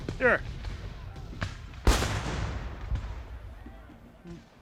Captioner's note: gunfire blasting